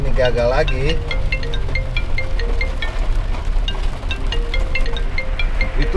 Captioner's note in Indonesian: Dering telepon